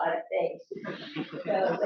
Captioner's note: laughter